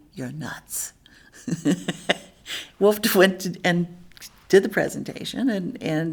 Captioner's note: laughs